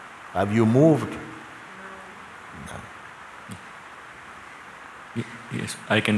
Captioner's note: voice in audience